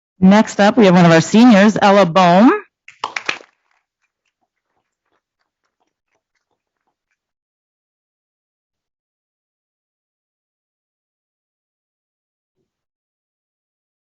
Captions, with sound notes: Next up we have one of our seniors, Ella Boehme. (applause)